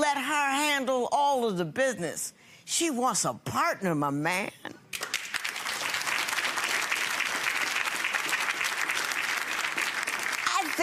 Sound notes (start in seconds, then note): 4.9 clapping